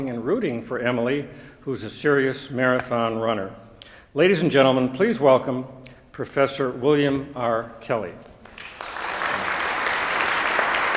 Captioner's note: applause